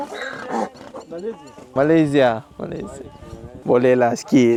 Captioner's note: speaking Arabic